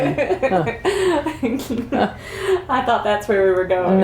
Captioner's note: laughter